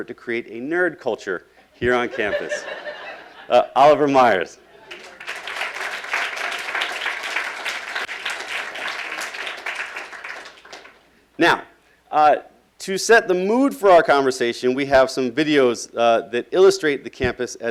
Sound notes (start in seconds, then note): 2.2 laughing; 4.8 applauding